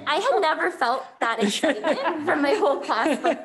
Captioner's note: members laughing